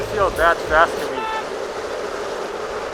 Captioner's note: honk